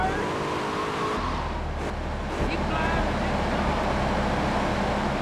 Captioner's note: sirens wailing